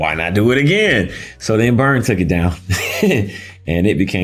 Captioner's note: chuckling